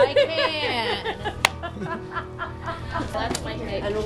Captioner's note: laughing